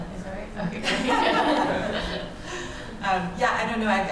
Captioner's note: laughter